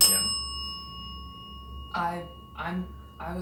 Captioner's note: bell dings